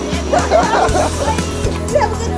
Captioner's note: laughing